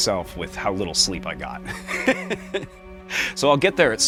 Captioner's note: laughs